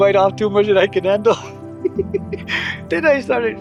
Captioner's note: laughs